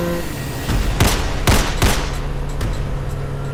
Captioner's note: gunshots continue